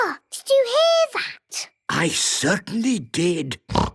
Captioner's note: snorting